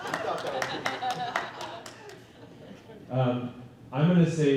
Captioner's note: applause